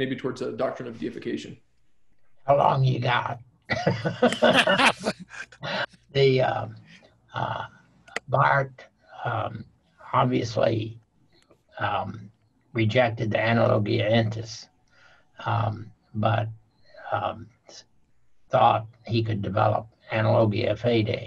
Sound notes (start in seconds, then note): 3.7 laughing